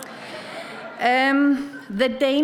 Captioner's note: audience chuckles